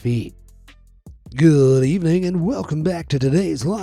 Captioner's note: in sports commentator voice